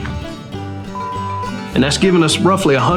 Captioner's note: beep